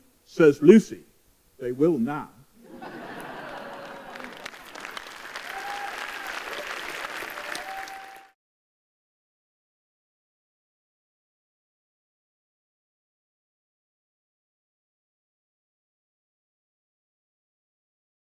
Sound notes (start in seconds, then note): 2.6 laughter and applause